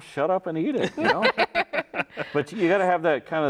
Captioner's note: both laughing